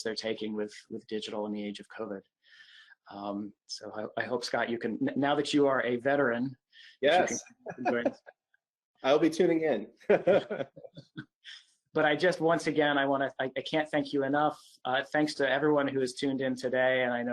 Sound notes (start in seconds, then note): 10.0 laughs